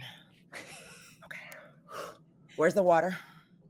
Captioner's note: laughing